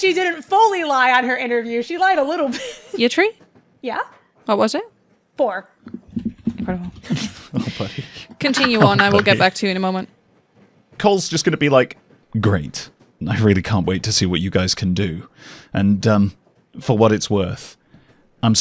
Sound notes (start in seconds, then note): 5.4 dice thunks; 6.6 chuckles